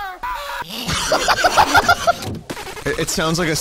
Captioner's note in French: rire désopilant